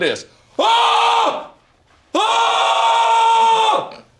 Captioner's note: screams